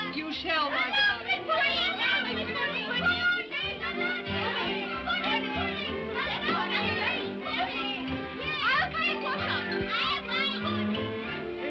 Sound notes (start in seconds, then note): 0.6 children clamor; 1.6 upbeat music